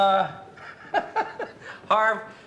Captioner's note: chuckles